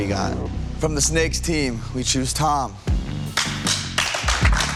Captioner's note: applause